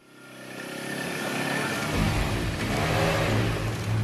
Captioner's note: motor revving